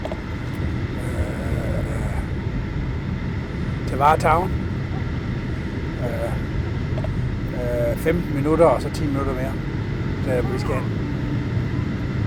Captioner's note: speaking in Danish